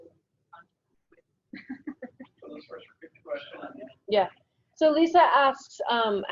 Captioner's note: speaking away from mike